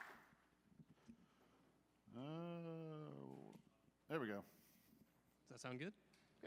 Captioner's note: applause